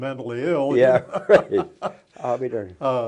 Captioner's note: chuckles